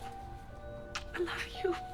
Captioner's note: lips smooching